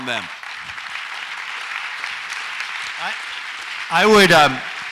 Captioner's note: audience applauds